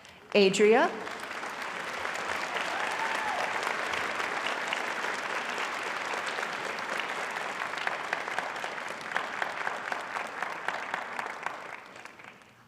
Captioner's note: applause